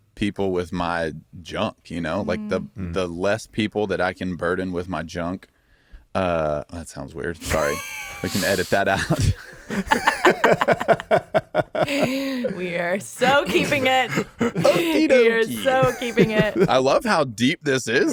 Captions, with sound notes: with my junk, you know, like, the less people that I can burden with my junk. That sounds weird, sorry. You can edit that out. (all laughing) - We're so keeping it. (laughs) We're so keeping it. - I love how deep this is though.